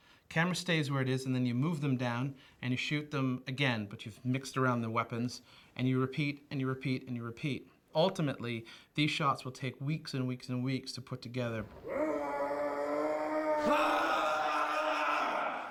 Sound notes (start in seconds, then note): 11.7 roaring